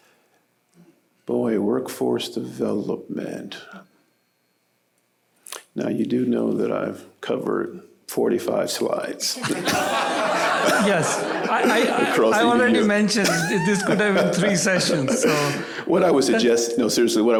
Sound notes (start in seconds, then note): 9.3 laughter